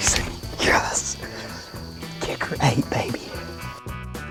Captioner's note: whispering